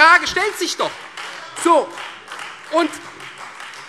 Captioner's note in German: Beifall Freie Demokraten